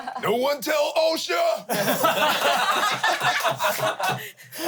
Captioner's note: everyone laughs